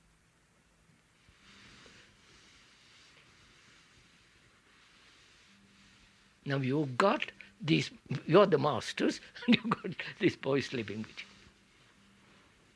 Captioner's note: laughs